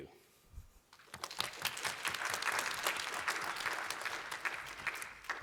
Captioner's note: applause